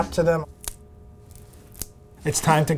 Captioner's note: mushroom crunching